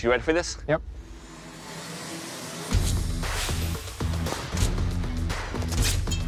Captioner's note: impact sounds